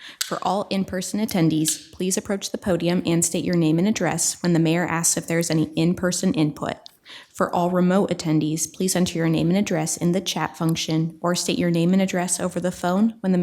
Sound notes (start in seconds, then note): none